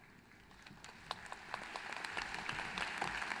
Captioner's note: applause